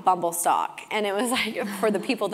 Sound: laugh

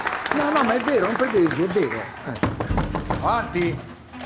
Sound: knocking at the door

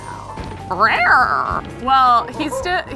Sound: purrs

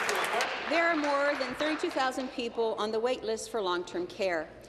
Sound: applause

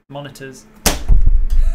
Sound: smack!

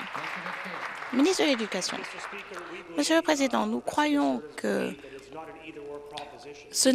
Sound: applause

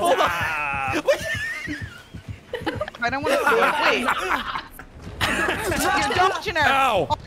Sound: laughs

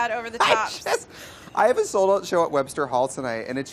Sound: laughs

